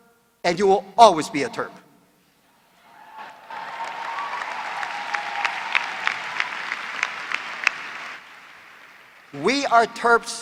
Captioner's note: applause